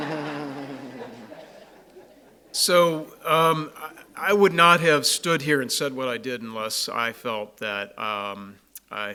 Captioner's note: laughs from crowd